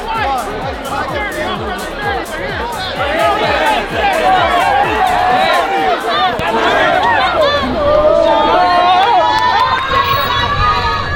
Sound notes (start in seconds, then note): 4.0 crowd yelling; 8.2 fans screaming